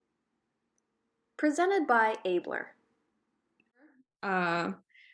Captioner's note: voiceover